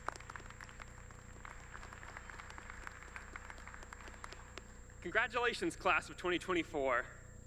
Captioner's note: applause